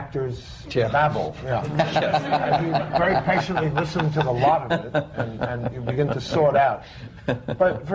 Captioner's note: laughter